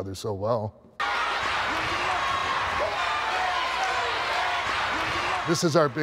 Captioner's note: applause